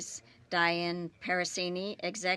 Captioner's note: speaking French